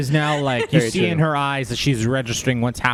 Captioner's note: laughing